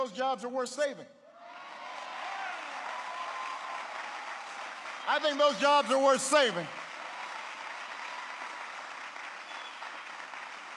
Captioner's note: applause